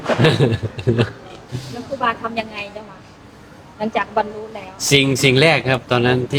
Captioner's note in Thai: เสียงหัวเราะ